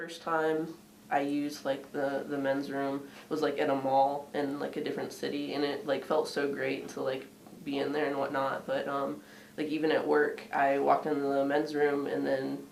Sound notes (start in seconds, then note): none